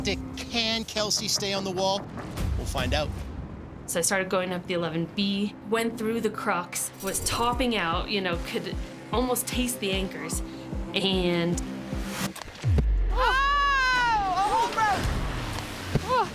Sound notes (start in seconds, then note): 13.1 woman yelling